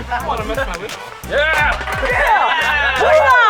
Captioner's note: everyone cheers; can clatters; yelling with bravado